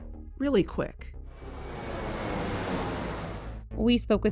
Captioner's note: plane take off sound